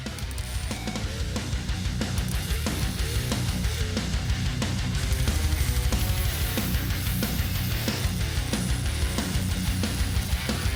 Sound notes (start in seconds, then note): 0.0 intense rock music; 0.0 tool whirring